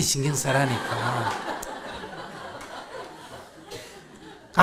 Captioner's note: audience laughter